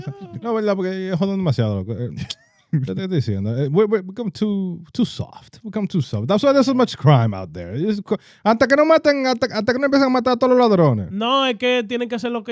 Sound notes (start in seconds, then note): 0.0 laughter; 0.0 speaking Spanish; 2.6 speaking Spanish; 8.4 speaking Spanish